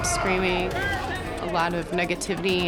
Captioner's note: chatter